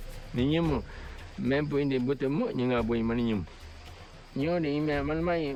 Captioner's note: speaking in foreign language